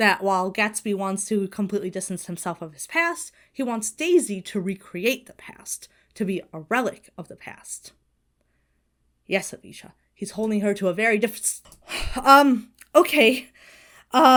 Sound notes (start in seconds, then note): 11.8 Hana sighs; 13.6 Hana exhales sharply